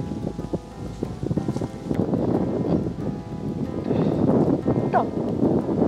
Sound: wind blowing

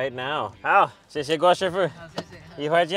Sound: speaks in foreign language

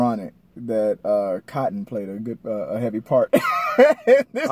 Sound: laughing

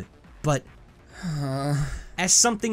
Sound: depressed sighs

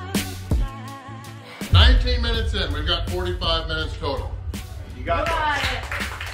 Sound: crowd

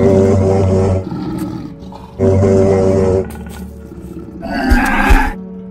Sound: Saber Tooth growls and gives up disorientated

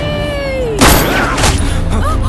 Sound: gunshot

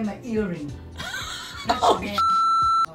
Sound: laughing

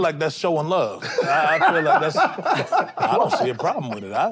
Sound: group laughs

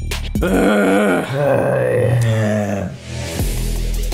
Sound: all grunting

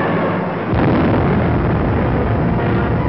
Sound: explosion sound

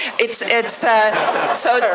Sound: laughter

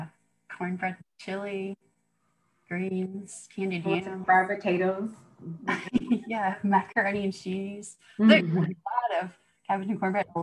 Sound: laughter

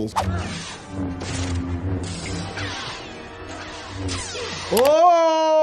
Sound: lightsabers humming, crashing

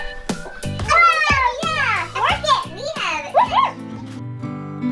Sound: children yelling; soft music

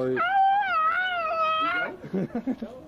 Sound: squeals

